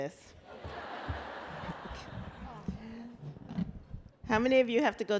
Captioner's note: laughter